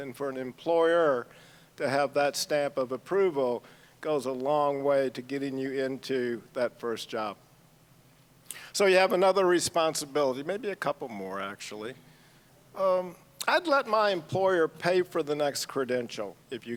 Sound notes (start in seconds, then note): none